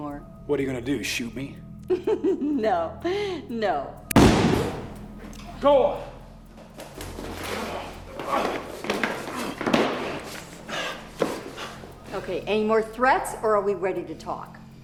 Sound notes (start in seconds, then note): 2.5 laughs; 4.1 shot blasts; 7.4 grunting; 9.8 panting